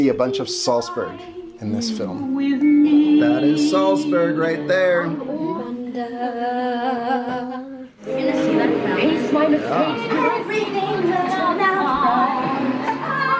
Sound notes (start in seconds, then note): 5.6 child vocalizes; 8.1 chatter on computer screen